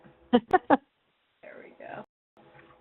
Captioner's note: laughs